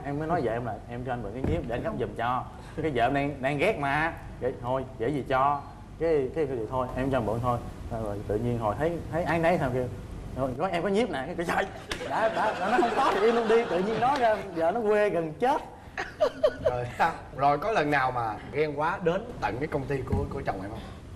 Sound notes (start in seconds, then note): 16.0 laughing